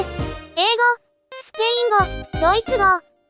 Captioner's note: Spanish; German